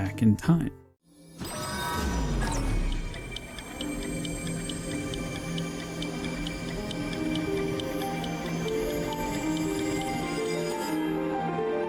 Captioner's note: recall Sound Effect, Temple Bells, and Music